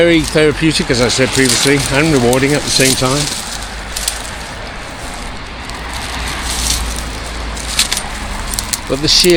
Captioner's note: road noise